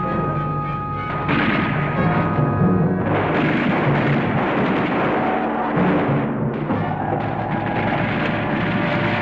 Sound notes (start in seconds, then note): 1.2 bullets firing